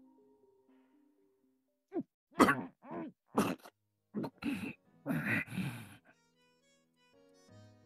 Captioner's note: cough